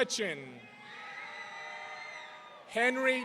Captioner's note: audience cheering